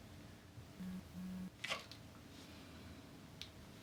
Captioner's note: phone vibrates